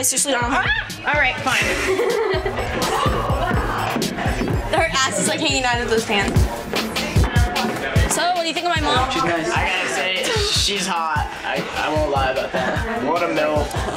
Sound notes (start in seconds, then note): 0.2 dance music; 7.8 back ground chatter; 9.6 techno music